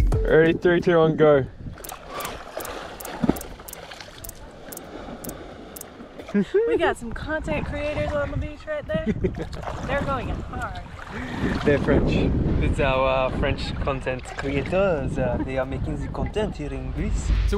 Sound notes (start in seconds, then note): 0.0 bright upbeat music; 1.7 water splashing; 1.8 camera clicking; 9.2 boy laughs